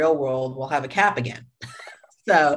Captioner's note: chuckles